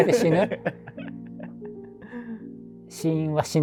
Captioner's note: laughing